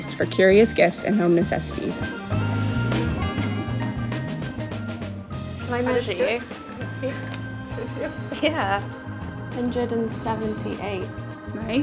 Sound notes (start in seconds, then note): 7.6 laughs